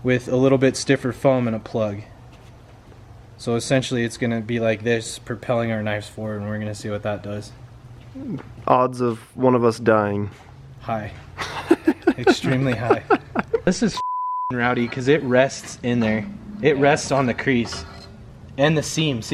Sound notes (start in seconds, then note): 11.4 laughing; 13.9 beeping